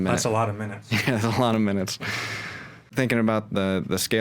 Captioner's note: chuckles